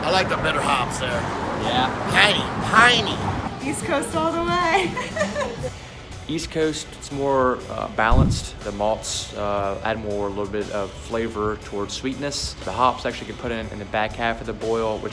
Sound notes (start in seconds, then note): 5.7 laughs